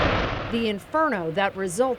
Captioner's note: fire roaring